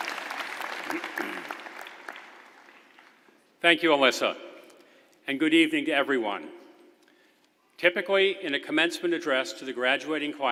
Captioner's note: applause